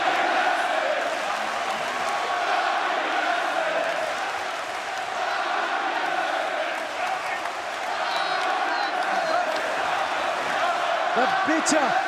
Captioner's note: crowd cheering